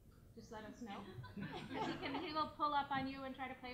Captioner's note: laughing